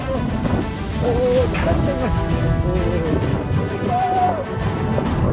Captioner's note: scream